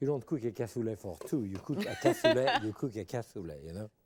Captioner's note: laughing